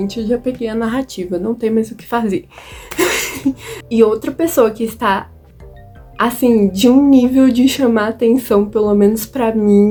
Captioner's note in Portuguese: risos